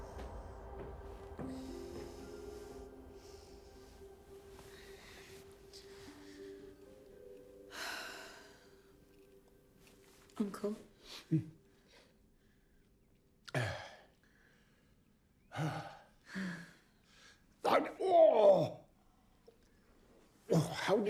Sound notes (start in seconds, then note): 7.8 Emma sighs